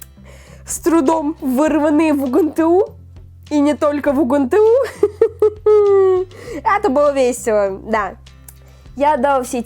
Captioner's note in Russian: смех